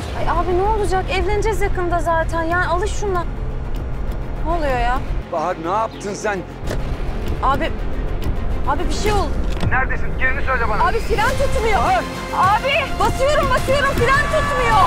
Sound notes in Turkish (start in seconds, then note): 9.6 Hakan ses